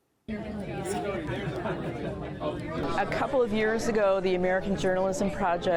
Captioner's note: chatter